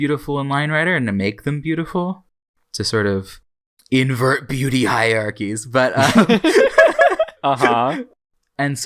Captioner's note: both laugh